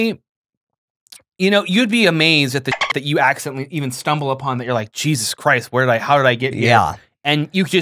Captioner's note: dolphin noise